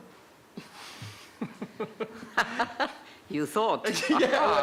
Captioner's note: laughter